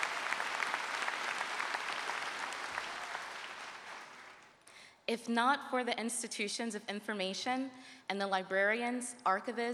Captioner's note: cheers and applause